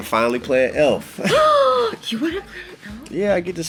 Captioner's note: gasps